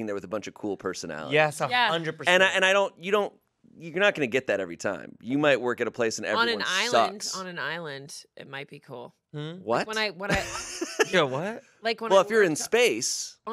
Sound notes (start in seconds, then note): 10.2 laughs